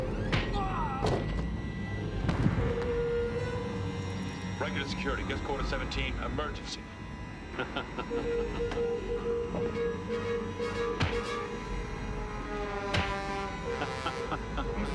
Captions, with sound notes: Riker to Security, Guest Quarter 17. Emergency. ( menacing chuckle )